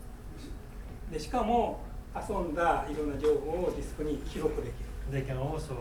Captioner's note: speaking in foreign language